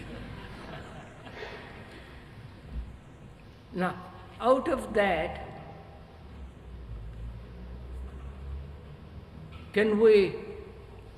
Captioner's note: laughter